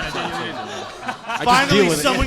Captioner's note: audience laughing